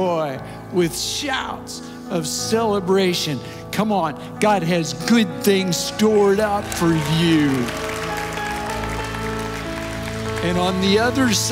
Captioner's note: audience Applauses